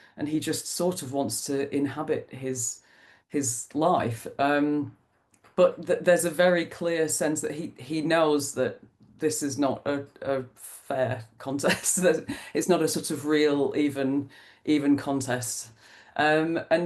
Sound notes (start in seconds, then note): 11.4 laughs